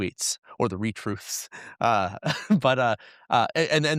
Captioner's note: chuckles